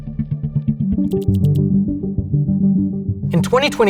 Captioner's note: inquisitive music; text whirring